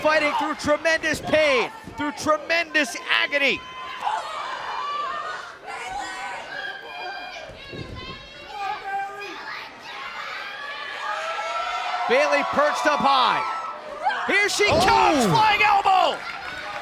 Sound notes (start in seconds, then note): 14.5 cheers and applause